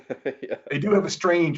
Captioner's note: laughs